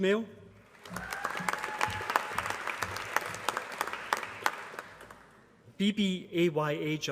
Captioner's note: applause